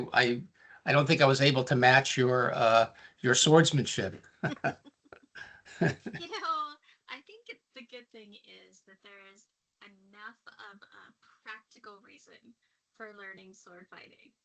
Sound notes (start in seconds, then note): 5.6 chuckling